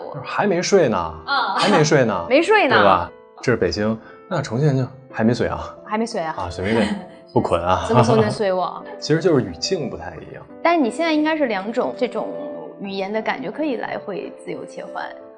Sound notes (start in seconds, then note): 7.4 chongqing accent